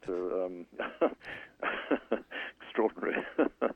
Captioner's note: laughs